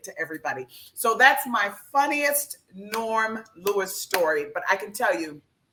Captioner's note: clap hands